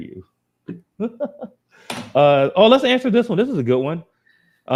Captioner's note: chuckles